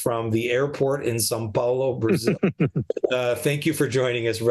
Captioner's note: chuckles